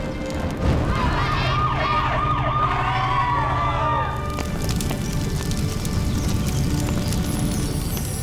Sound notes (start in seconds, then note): 0.9 siren wailing; 5.0 fire crackling